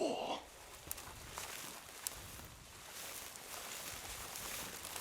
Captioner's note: grass crunching